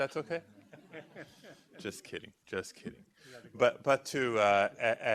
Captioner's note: laughter